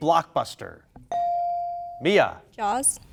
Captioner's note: bell dinging